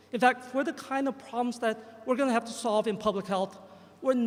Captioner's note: none